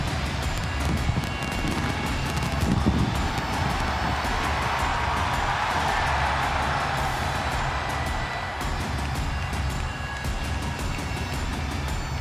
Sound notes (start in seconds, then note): 4.0 crowd cheering continues; 8.5 dramatic music continues